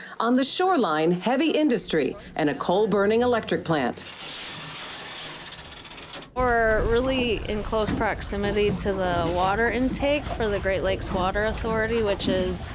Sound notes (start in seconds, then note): 4.3 whir of line dropping